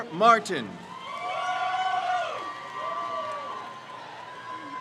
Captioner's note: crowd cheers